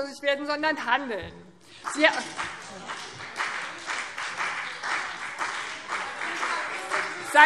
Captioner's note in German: Beifall BÜNDNIS 90/DIE GRÜNEN und vereinzelt CDU